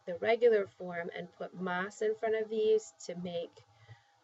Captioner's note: spanish